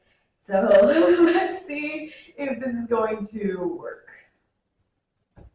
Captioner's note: nervous laugh